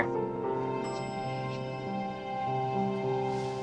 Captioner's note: elevator dings